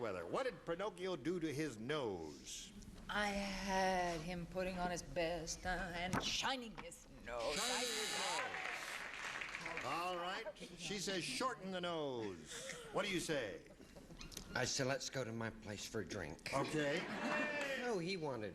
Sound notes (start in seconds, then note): 12.7 as paul lynde